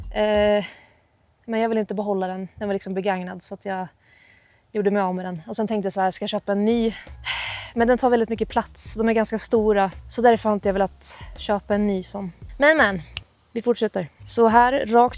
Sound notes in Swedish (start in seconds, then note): 6.9 drar efter andan